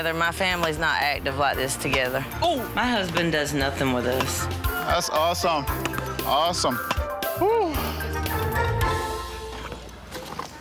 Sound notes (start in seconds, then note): 7.3 sighs